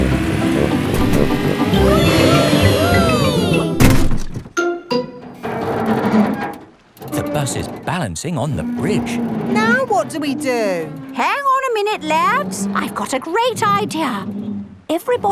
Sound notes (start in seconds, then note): 1.7 all cheering; 5.8 creaking